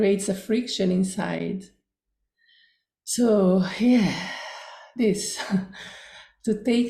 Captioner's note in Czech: výdech